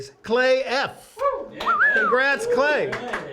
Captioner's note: applause